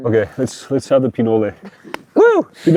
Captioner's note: everybody laughs